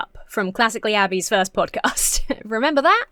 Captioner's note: chuckles